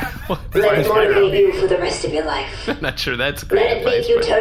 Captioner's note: laughing